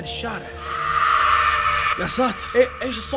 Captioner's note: screaming